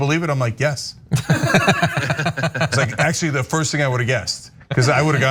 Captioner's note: laugh